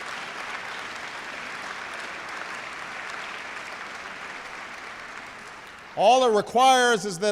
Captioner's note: applause